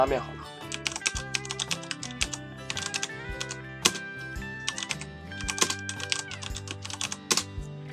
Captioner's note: typing Sound